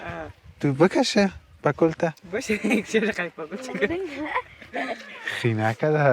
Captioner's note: laughing